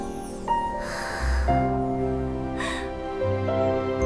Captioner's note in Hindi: गहरी सांस लेने की आवाज़